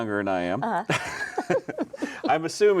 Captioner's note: chuckles